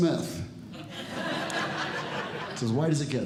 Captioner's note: audience Laughing